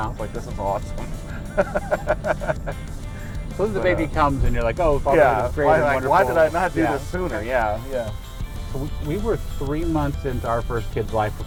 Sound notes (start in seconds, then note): 0.9 laughing